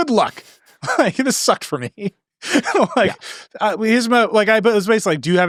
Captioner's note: laughing